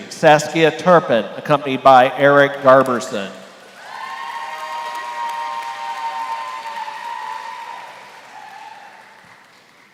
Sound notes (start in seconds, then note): 3.6 applause